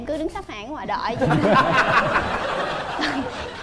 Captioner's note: laughing